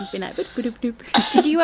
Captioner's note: laughing